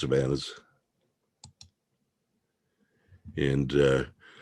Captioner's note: mouse clicking